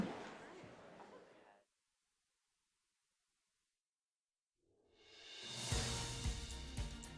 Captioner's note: applause